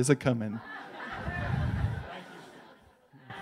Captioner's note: laughs